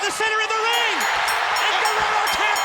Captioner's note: bell dinging